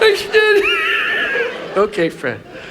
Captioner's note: laughs